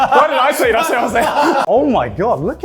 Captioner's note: speaks Japanese